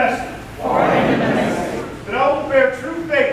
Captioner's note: crowd